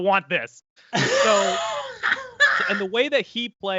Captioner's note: laughs